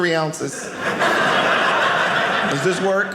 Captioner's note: audience laughing